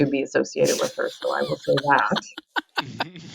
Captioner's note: laughs